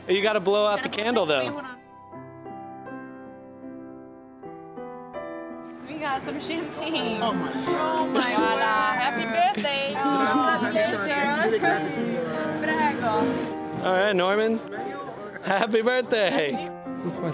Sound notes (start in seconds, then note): 2.4 mellow music; 12.5 speaks Italian